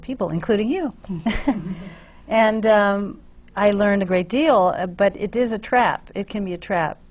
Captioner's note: laughs